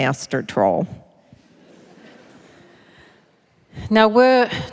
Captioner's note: laughter